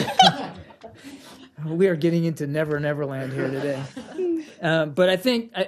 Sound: laughter; laughter

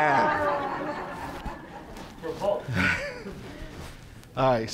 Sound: audience laughing

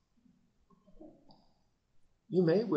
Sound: silence

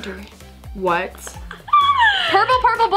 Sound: laughs

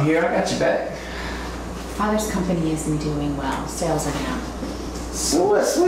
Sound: sighs

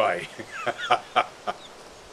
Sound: euphoric laughter

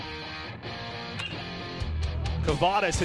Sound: crack of the bat

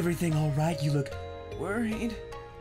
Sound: In a very Little Caeser's Hot & Ready™ voice

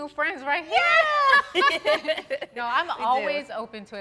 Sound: all laughing

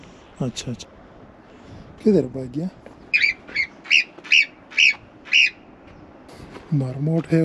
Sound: sound of marmot

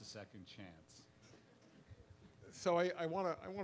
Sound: laughs

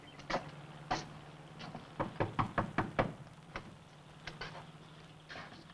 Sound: knuckles tapping

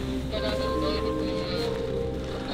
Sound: voice over the radio

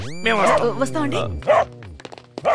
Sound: dog barking

